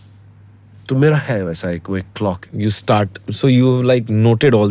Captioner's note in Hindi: नाक से की जाने वाली आवाज़